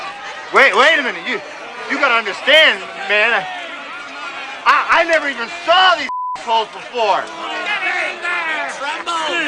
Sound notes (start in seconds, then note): 6.0 beep